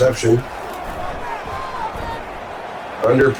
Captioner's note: crowd Noises